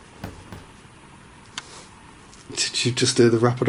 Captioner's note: soft wrapping